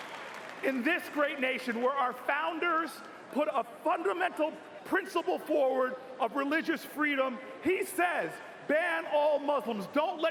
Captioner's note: cheers and applause